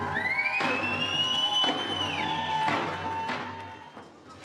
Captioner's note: whistle blowing